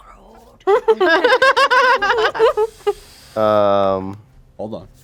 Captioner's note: group laughing